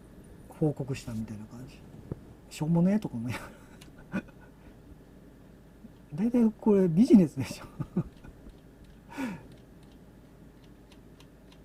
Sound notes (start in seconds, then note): 7.4 laughs